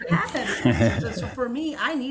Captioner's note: panel laughing